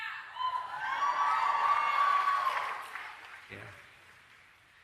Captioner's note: cheering